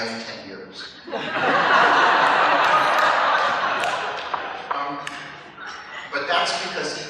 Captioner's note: laughter